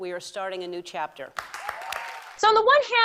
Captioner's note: cheering, applause